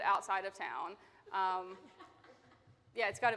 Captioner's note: attendee laughing